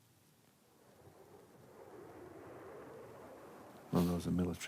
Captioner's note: jet plane sound